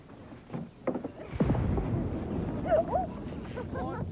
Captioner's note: distant explosion